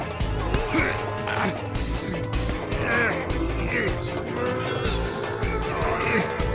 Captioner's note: grunting and straining